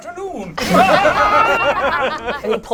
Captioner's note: laughs maniacally